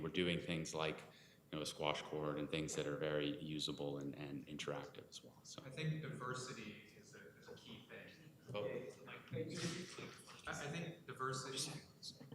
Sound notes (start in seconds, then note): 8.8 whispering